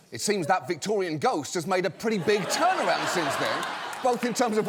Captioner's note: laughter